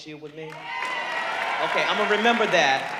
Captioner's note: audience cheering